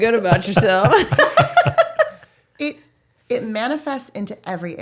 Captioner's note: laughing